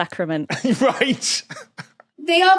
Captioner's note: laughs